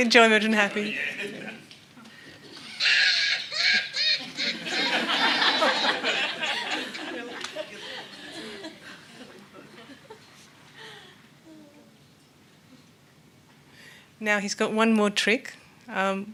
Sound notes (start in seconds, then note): 2.5 Nao laughs uproariously; 2.5 everyone laughs